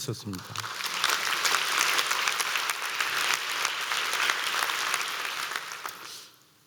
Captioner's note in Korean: 박수